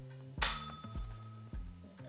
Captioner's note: bell rings